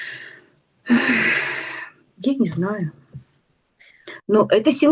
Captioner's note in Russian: вздыхает; тяжело вздыхает